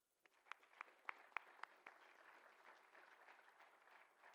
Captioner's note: applause